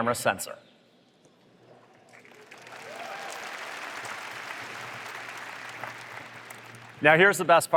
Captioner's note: applause